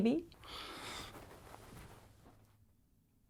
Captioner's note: Bryan sighs